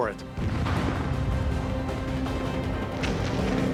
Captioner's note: gunfire and explosions